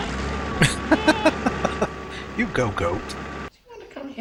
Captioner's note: laughing